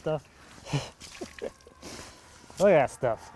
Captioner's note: laughing